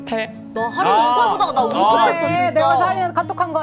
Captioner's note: breaking into tears again